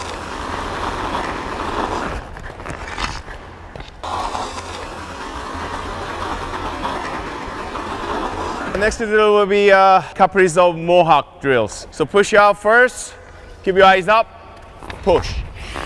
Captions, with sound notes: (skates scraping) (skates scraping) The next to drill will be Kaprizov Mohawk drills, so push out first. Keep your eyes up, push.